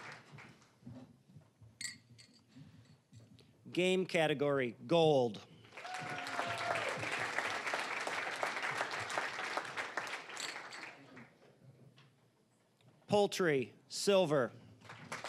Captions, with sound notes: Game category, gold. (cheering, applause) (applause) Poultry, silver.